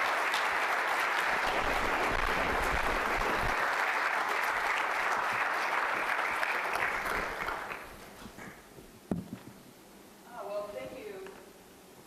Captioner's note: applause